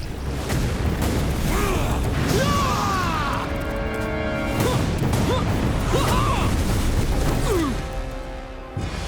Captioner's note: grunting, screaming